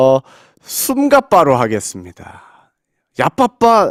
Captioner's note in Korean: 숨가빠